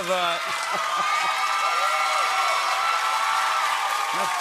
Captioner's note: cheers and applause